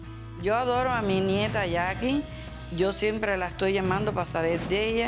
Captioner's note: speaking Spanish